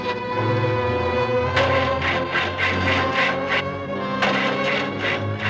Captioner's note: engine cranking